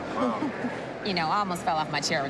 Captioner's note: chuckles